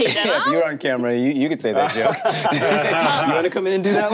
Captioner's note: group laughing